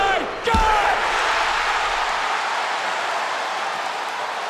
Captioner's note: crowd cheers